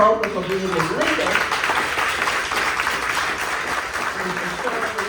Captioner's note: clapping